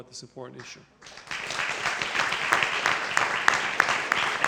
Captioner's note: applause